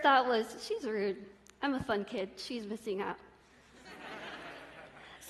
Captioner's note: laughter